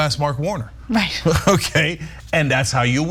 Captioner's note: laugh